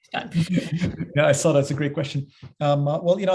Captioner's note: laugh